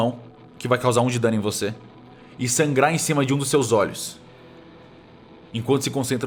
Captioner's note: none